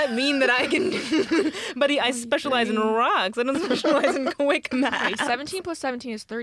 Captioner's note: laughs